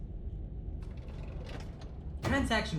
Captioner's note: heavy drawer closing